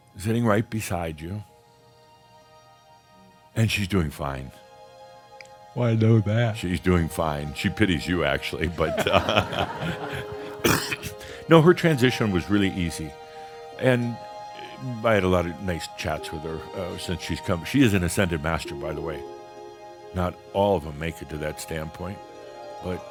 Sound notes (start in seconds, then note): 8.8 some laughter